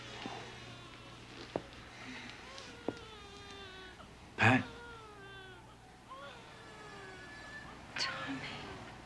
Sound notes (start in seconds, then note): 1.3 footsteps approaching